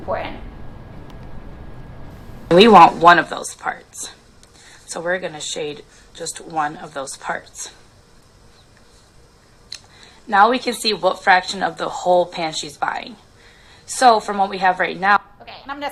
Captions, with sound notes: This is important. - [Voiceover] We want one of those parts, so we're gonna shade just one of those parts. Now we can see what fraction of the whole pan she's buying. From what we have right now,